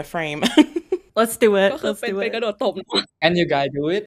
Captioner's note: in Thai